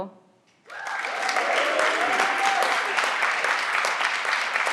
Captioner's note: everyone claps